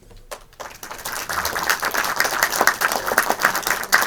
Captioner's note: applause